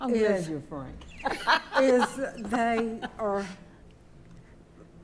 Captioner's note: laughing